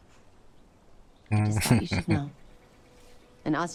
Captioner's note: chuckling